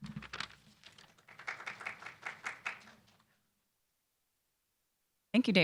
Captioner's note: applause